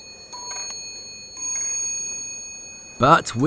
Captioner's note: elevator rings